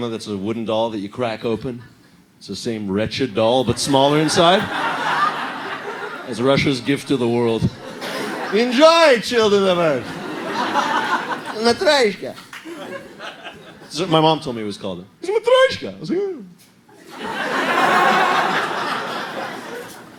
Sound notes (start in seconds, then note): 8.5 Russian accent; 15.0 vague Eastern European accent